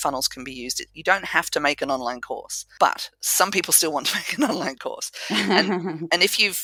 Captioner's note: laugh